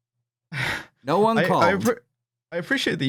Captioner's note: sighs